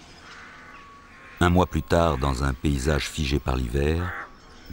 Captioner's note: French spoken audio